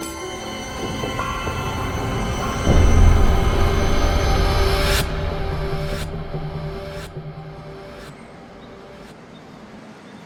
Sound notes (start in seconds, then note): 5.0 whooshing